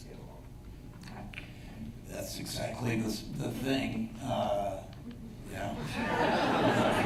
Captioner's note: laughter